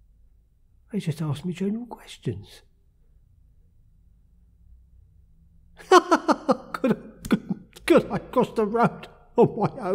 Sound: laughter

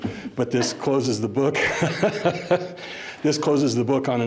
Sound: laughs

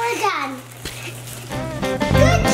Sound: plastic rustling; upbeat instrumental music

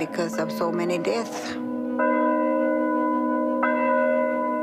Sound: bell tolling

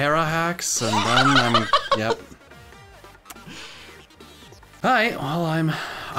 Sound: laughing

